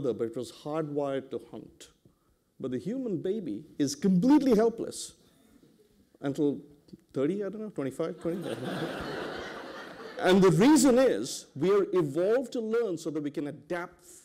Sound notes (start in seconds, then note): 8.2 laughter